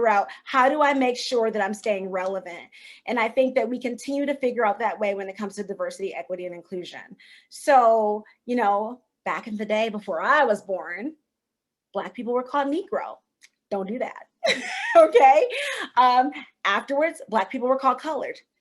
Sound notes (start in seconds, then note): 14.5 chuckle